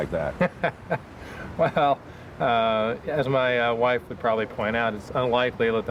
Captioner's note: laughs